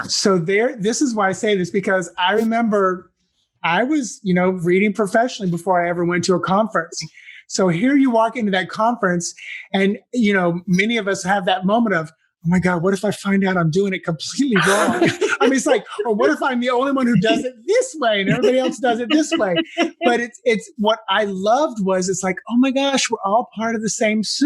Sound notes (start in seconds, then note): 15.3 laugh